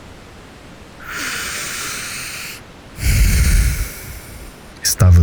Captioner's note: sigh